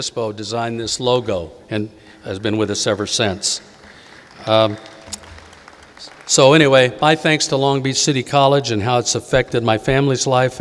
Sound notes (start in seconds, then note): 3.2 audience applauding